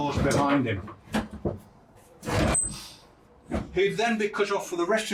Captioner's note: doors clanking